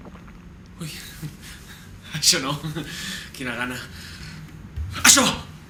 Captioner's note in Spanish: suenan las tripas de salvador